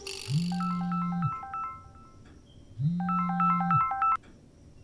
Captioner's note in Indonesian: phone rings